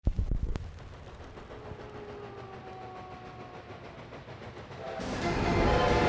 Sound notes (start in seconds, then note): 0.4 train rollicking on the tracks; 1.2 wolf howling in the distance; 4.7 train whistle blowing